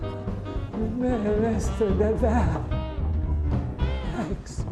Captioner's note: stammering